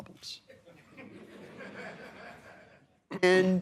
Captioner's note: laughter